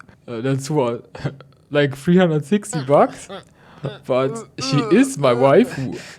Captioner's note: sound of disgust in BG